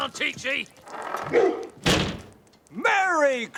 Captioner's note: dog barks